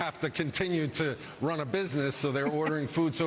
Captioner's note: laughter